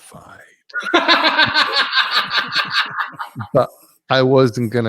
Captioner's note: laugh